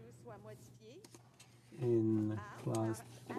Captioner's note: speaking French